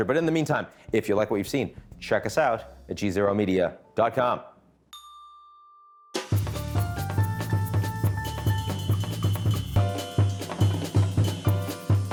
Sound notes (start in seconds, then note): 4.9 bell rings; 6.2 upbeat music